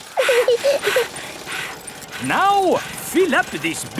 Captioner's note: chuckles; peppa chuckles; daddy pig panting; mummy pig panting